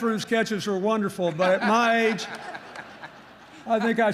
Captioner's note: laughter